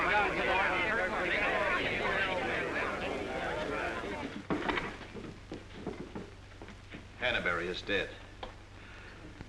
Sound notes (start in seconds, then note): 4.5 plopping down in chair